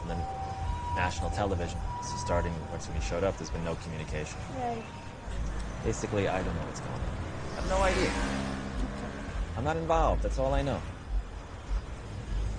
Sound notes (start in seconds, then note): none